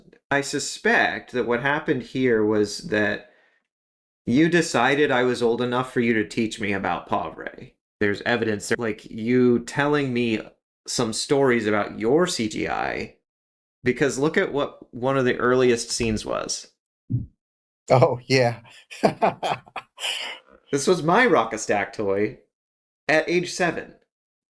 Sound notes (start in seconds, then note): 18.7 laugh